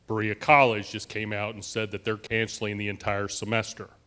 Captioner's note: none